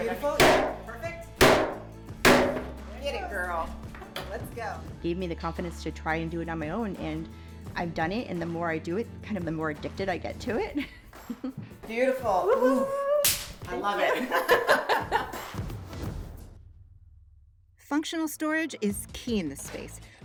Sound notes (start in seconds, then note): 1.4 mallet pounding; 13.2 hands smacking; 13.9 women laughing